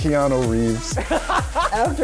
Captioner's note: laughs